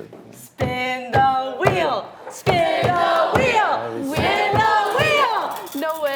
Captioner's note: laughing; chanting